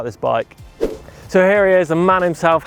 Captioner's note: whoosh